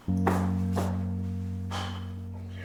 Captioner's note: sighing